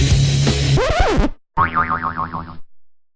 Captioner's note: record scratch; boing